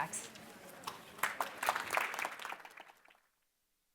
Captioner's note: applauding